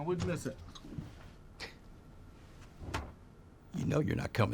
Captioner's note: scoffs, door closes